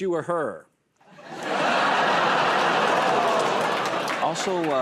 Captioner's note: laughter